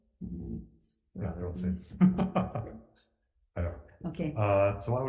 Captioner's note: laughs